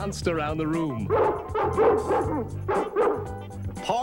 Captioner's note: barks